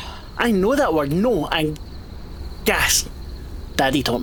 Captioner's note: sighs